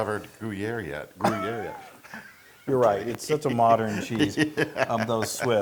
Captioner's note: laugh